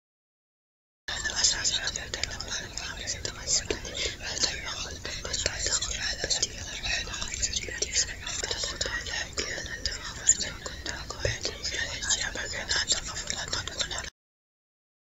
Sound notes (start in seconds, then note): 0.0 sound of whispers